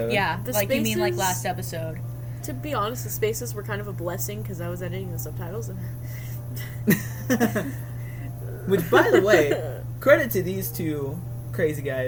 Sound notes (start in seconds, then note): 4.6 hyperventilates; 4.9 laugh; 8.4 makes a crying noise